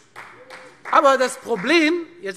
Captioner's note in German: Beifall